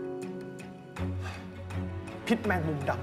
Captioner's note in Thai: เสียงถอนหายใจ